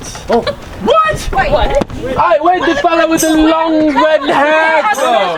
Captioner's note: people chattering